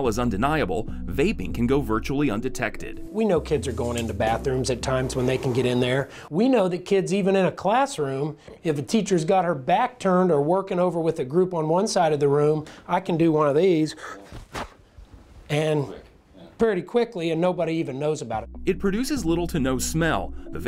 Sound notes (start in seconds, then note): 13.9 puffs loudly